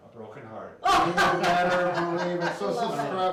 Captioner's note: laughs